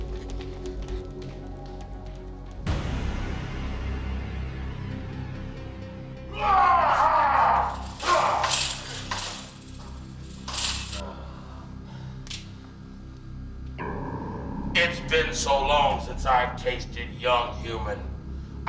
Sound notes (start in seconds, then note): 3.0 dramatic music; 6.3 man groans